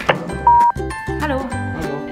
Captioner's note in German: Piep-Ton